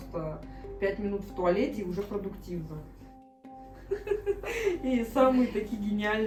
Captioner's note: laughs